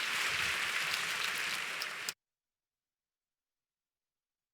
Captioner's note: applause